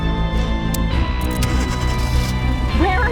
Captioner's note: car starts